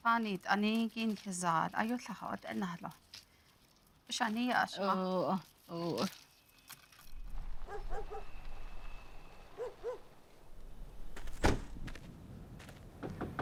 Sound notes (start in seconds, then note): 1.2 speaking Navajo; 7.6 dog barking